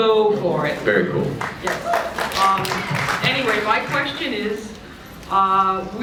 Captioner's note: applause